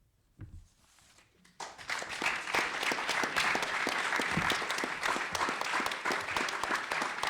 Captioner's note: applause